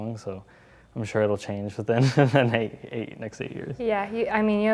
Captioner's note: laugh